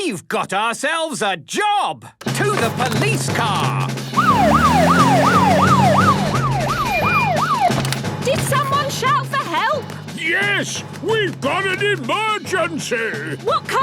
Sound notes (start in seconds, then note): 4.1 siren wailing